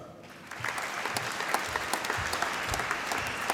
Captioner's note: applause